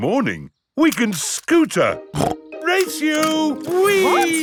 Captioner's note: snorts